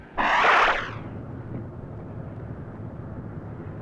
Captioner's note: air whooshes